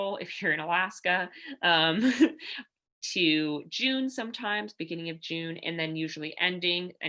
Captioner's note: laughter